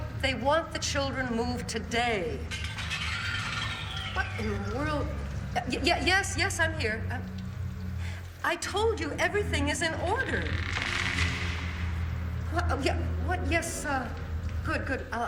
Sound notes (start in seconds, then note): 2.5 muffled clattering; 8.0 gasps; 9.2 muffled creaking